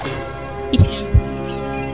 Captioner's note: silly voice